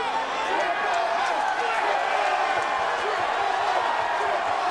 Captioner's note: audience cheering